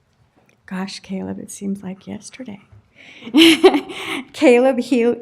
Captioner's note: laughter